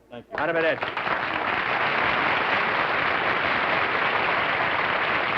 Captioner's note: applause